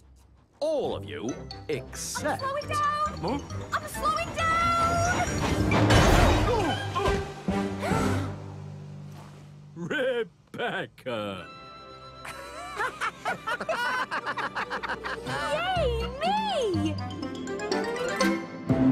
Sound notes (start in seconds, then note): 7.5 Thomas, Percy, and James Gasps; 12.2 Thomas, Percy, and James Laugh